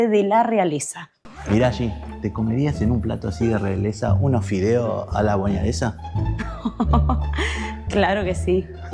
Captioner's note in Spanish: risas